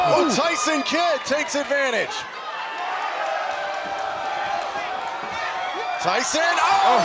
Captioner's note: crowd cheering